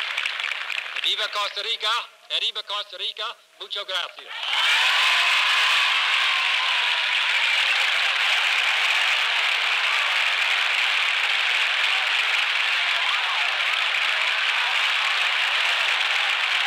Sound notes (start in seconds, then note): 4.4 applause, cheers